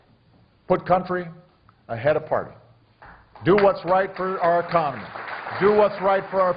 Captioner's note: applause